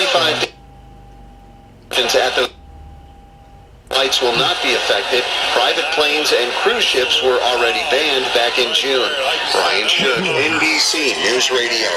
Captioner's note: Noise of multiple AM broadcast stations together